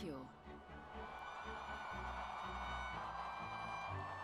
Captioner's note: crowd cheering